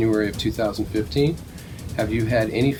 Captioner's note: none